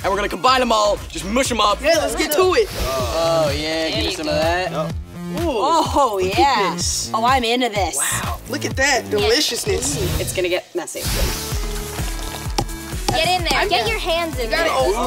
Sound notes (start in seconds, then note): 12.4 tapping